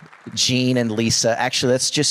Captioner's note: audience Applauding